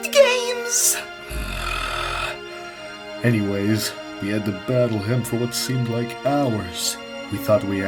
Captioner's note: gasps; grunts